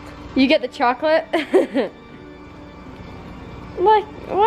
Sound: chuckles

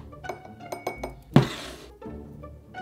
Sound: spoon tapping

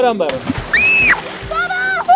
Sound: screaming

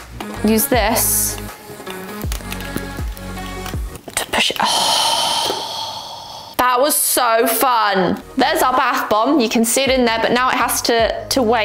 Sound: deep gasp

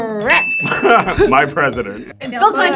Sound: laughs

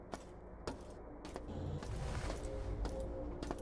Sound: footsteps

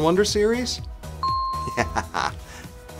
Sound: laugh

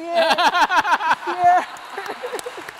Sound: applause

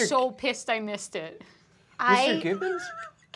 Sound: laughter

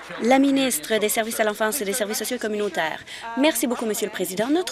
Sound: applause

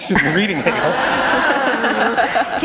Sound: laughter

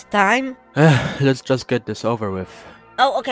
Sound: sigh

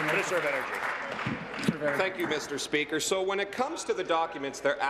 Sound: applause

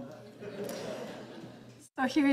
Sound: audience laughing

